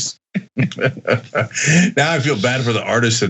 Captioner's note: laugh